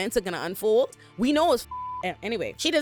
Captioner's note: beep